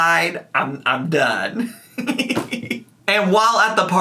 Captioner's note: laughing